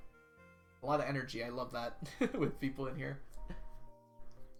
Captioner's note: laughs